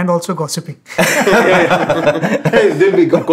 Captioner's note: laughter